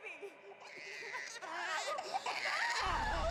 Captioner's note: baby crying and screaming